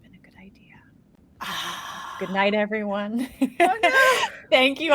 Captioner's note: laughs